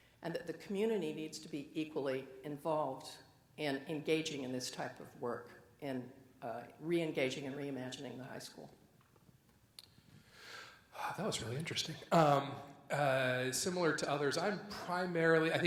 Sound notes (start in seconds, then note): 12.1 sighs